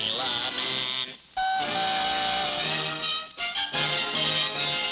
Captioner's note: horn tooting